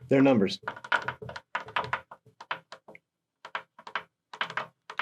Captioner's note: pen tapping